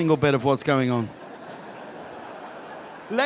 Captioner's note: audience chuckles